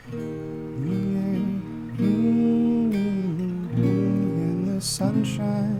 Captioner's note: humming